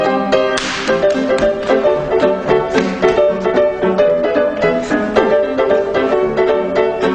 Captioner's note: upbeat jazz music; hands clapping; feet stomping